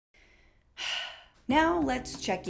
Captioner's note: sigh